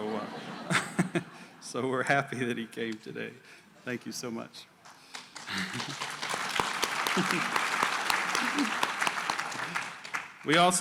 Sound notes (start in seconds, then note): 0.0 laughter; 4.8 applause